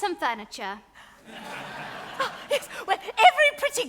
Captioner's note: audience laughs